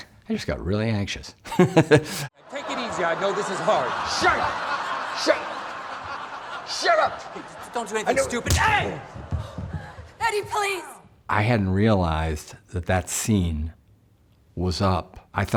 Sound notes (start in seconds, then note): 2.0 laughs; 8.9 punching sound